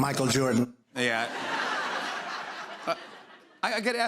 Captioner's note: laughter